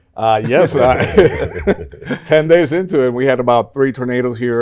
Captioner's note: laughs